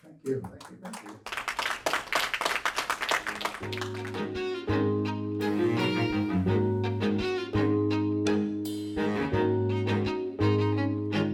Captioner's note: applause